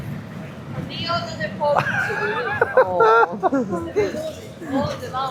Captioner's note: laughs